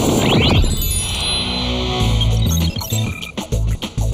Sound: helicopters flying

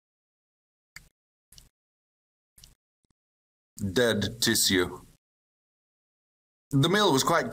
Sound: chews

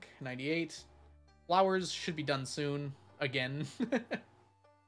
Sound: laughs

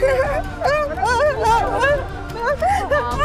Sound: crying

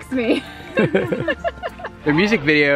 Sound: laughs

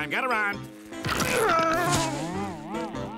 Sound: grunting

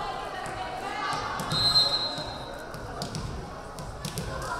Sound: whistle blaring

